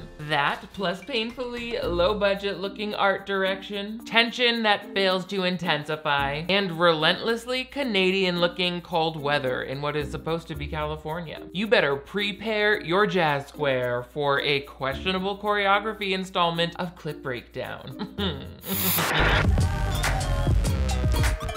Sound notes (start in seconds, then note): 17.8 chuckles; 18.7 upbeat music